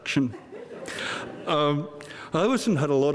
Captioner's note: audience laughing